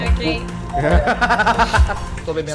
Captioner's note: laughs